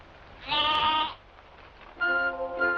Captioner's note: bleating